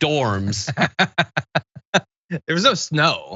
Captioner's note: laugh